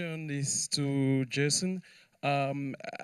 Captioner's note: none